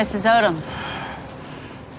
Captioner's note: sighs